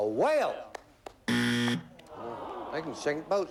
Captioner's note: buzzer